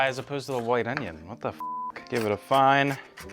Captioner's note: beep